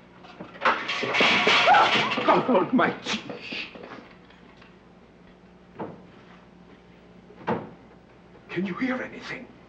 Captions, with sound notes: (loud clattering) (woman gasps) - God Almighty! Shh. (soft thudding) Can you hear anything?